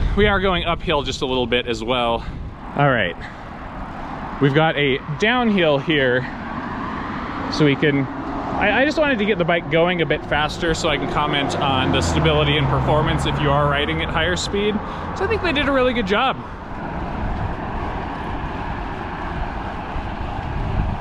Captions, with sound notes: We are going uphill just a little bit as well. All right, (car engines roaring) we've got a downhill here, (car engines roaring) So we can (air whooshing) I just wanted to get the bike going a bit faster, so I can comment on the stability and performance, if you are riding at higher speed. (air whooshing) (car engines roaring) So I think they did a really good job. (air whooshing)